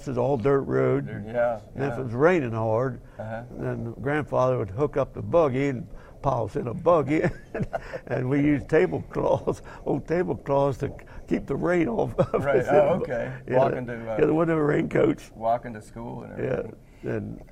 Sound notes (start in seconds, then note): 6.9 laugh; 11.8 laugh